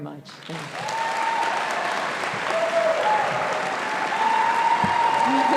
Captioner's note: audience applauding and cheering